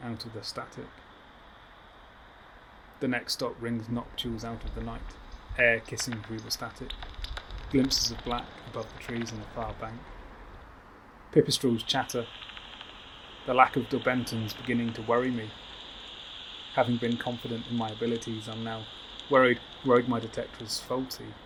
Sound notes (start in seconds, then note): 5.6 chirping calls